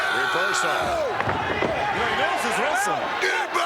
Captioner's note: Skinner screams